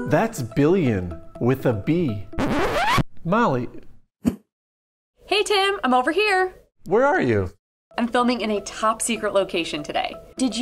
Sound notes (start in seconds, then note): 2.3 record scratch